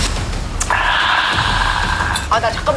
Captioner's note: ecstatic groan